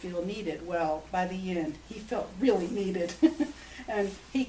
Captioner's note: laughs